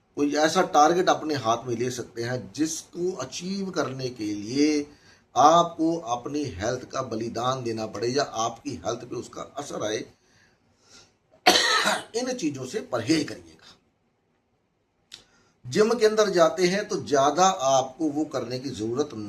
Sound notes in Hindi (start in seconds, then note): 11.4 गला साफ़ करने की आवाज़; 11.4 खांसने की आवाज़